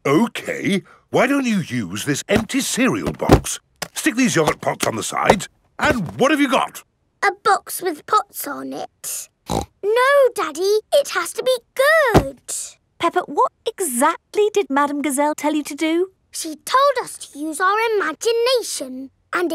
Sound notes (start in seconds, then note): 9.4 snorts